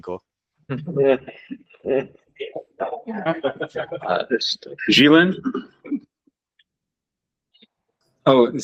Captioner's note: scattered laughs